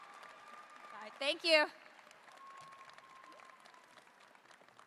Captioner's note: applause